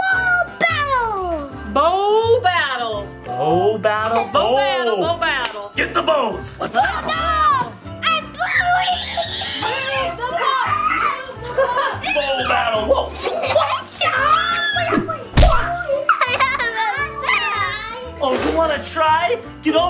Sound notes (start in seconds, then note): 14.7 screams